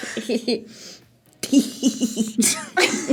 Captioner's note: laughs; giggles; laughs